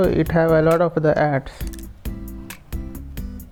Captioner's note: Arabic